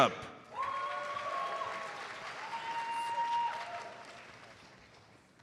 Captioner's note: audience cheers and applauds